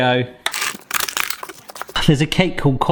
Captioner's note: plastic rattling